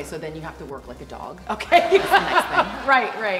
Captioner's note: laughs